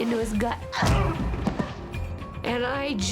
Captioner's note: groans